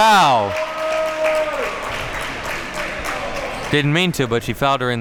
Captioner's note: crowd applauding